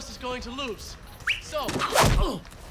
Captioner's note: whistling